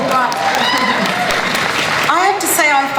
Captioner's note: audience cheering and applause